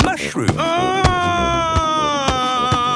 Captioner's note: shouting